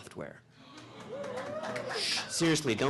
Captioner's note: audience laughing/ applauding/cheering